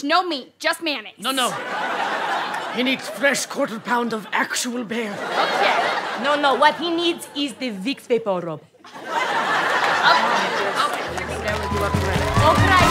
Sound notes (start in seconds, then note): 5.7 audience laughter; 8.8 audience laughter